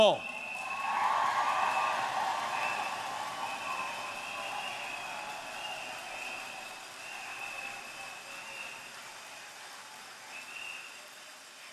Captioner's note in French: Acclamations et applaudissements